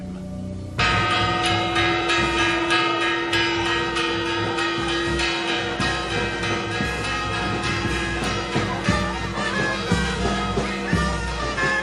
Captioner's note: bell Ringing